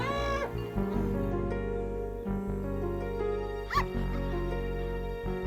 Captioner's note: sinister music; barking sound